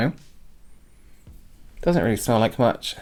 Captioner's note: sniffing